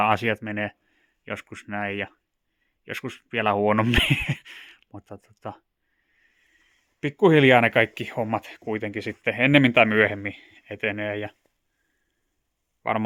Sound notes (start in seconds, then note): 3.8 manic laugh